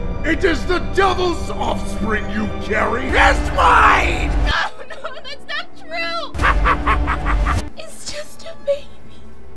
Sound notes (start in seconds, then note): 6.3 devil laughs